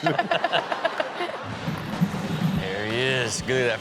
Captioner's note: audience laughs